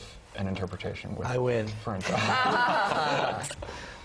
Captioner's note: laugh